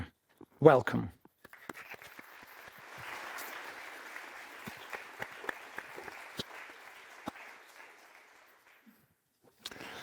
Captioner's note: applause